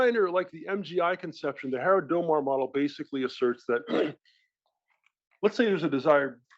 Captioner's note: cough